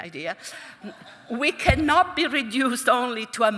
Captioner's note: audience chuckling